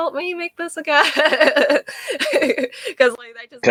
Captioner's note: laughing